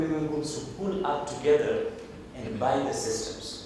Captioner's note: none